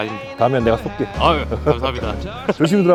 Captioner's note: sneaky laugh